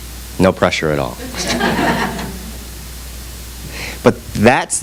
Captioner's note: audience laughs